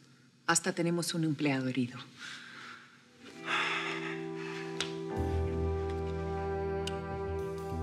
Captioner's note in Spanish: exhala